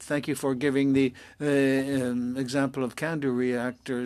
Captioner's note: speaking French